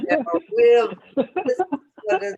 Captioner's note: laughter